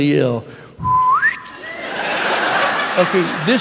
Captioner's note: whistling; laughter